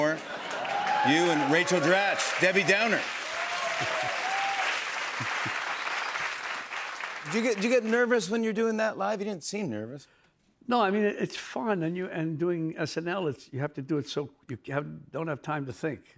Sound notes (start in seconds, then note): 3.3 cheers and applause